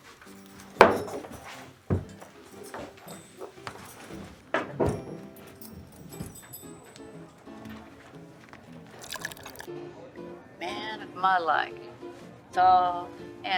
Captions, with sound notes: (shot glass clanking) (melodic piano music) (whiskey pouring) - Man of my like, tall, handsome.